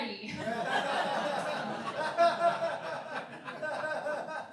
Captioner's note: laughing